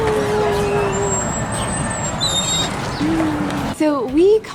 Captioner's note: door hinges squeaking